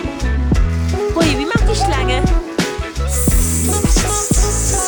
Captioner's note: snake noises in German